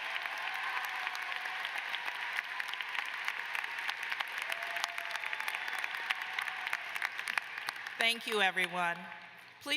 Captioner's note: applause